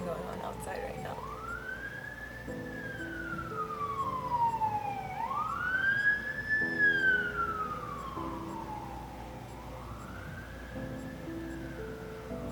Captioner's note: more sirens